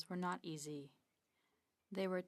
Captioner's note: speaking French